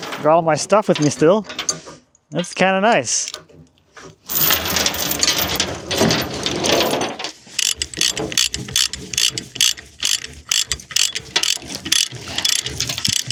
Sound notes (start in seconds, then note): 4.2 chain rattling; 7.5 come-long cranking